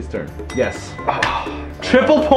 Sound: sigh

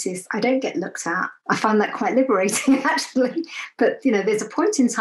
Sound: laughs

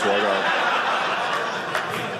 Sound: audience laughing

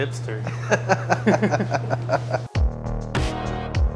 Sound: both laughing

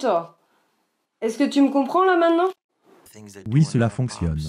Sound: in french

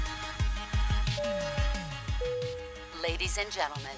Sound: electronic music; seatbelt alert sounds

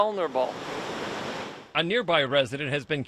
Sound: rushing surf

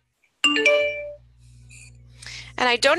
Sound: computer beeps

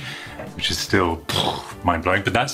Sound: explosion noise

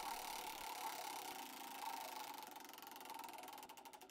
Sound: whirring

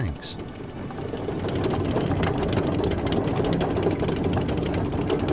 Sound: engines hum

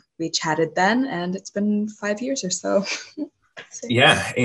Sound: chuckles

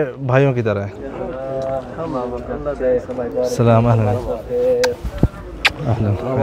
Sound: Arabic

